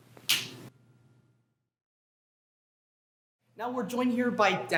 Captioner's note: snaps fingers